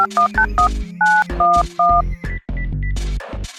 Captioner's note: phone dials